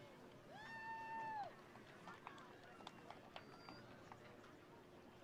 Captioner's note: attendees cheering